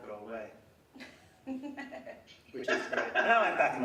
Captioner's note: laughing